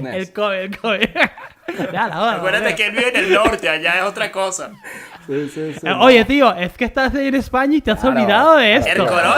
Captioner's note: laughs